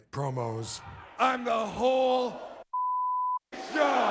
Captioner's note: beep